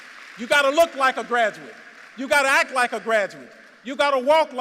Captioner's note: applause